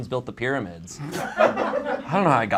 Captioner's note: audience laughs